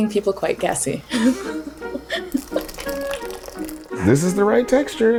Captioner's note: chuckles